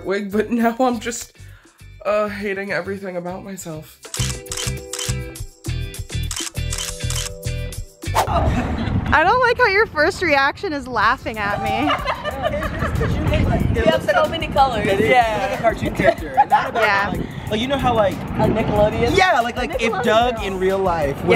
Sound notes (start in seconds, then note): 4.1 camera snaps; 11.6 all laugh